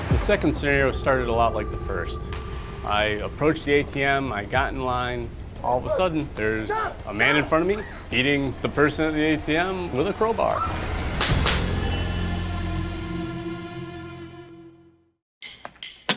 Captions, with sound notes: - The second scenarion started a lot like the first. I approached the ATM, I got in line. All of a sudden, there's a man in front of me, beating the person at the ATM with a crowbar. (gun shots)